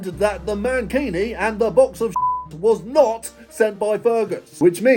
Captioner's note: beep